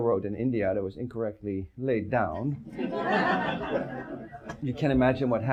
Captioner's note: audience laughs